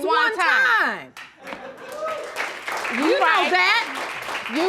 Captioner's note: audience clapping